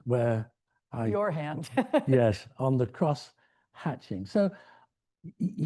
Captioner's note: laughs